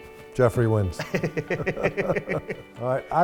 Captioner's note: both laughing